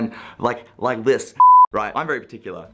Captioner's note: beep